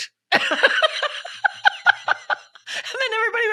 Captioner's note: laughing